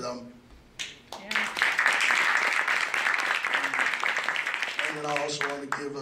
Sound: applause

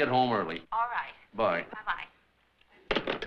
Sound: on phone

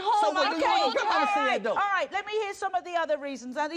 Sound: couple squabbling

